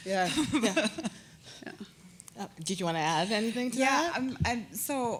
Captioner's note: chuckle